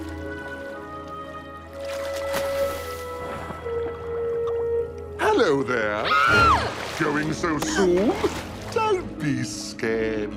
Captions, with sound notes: HELLO, THERE! ( screams ) GOING SO SOON?